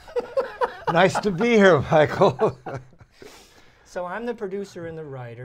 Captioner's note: laughter